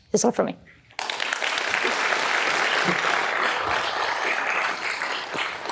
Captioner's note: audience applauding